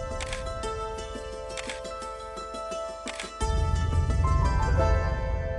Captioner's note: camera shutter clicks